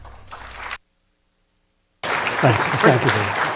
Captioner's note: applause